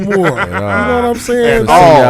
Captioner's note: laughing